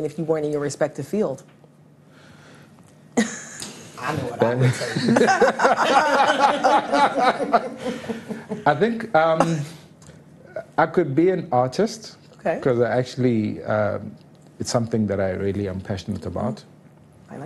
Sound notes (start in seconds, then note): 5.3 all laughing